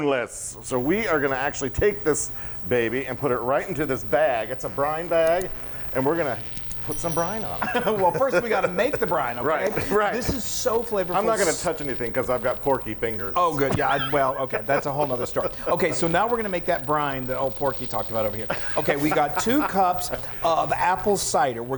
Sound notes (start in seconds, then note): 6.3 bell noise; 7.6 both laughing; 10.2 claps hands; 13.3 chuckling; 18.4 laughing